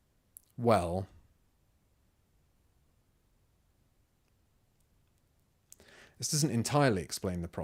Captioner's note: silence